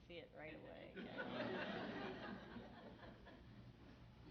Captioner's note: audience laughs